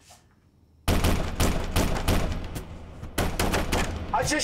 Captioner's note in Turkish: Kapı çalıyor